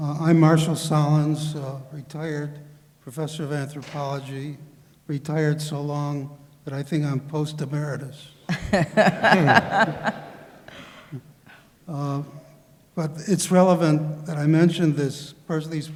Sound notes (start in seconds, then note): 8.5 laughter